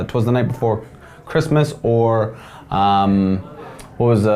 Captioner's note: none